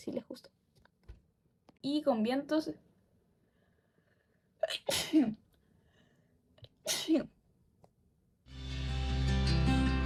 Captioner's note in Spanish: Estornuda